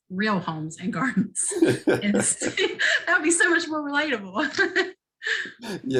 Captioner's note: laughter